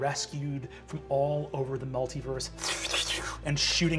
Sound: imitates beams whooshing

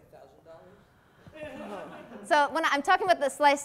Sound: class laughs

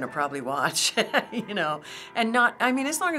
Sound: laughing

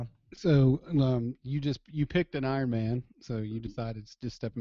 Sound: voiceover

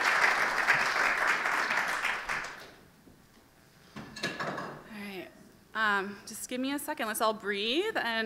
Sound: applause

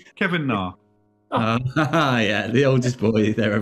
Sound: laughs

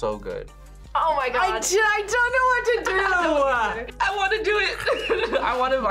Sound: laughs

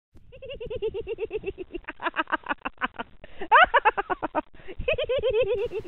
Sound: prolonged GIggling

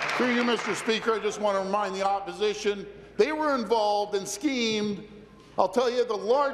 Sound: applause

